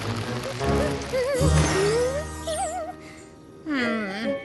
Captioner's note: crackling; cheerful humming